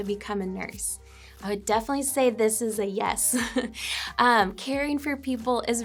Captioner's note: chuckles